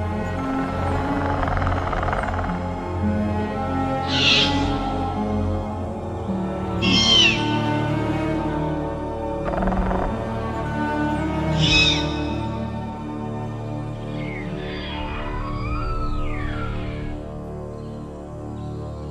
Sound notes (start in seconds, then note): 0.6 raptor Sounds